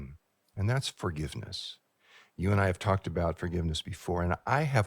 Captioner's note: laughs